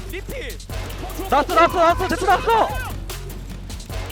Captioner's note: BuZz